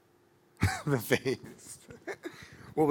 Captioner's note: laughing